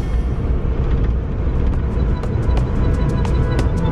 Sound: car noise and new music begins

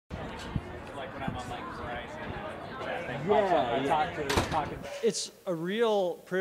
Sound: crowd chattering

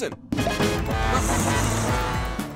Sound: horn honking and buzzing

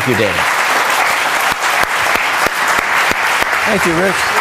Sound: aplause

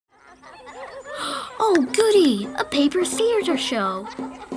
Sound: gasps

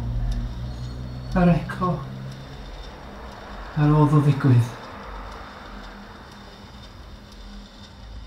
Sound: unnerving rattle that grows

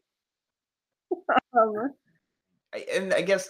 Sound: laughs

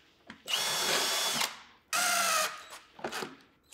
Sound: drill whirring

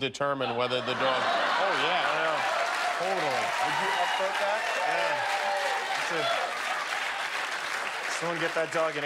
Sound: laughter

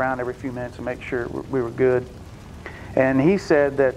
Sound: fire burning

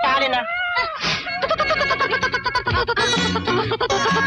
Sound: muttering

